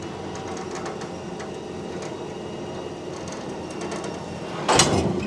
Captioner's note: machinery humming